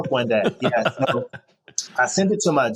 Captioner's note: chuckles